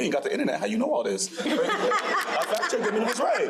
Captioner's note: crowd laughing